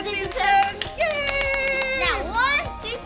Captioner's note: both clapping